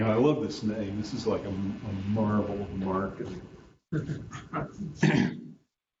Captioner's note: chuckles